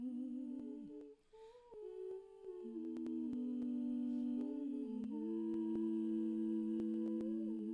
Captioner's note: humming in Harmony